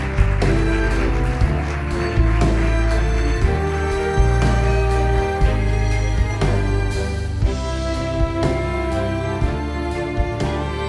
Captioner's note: applause